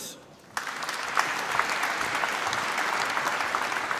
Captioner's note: applause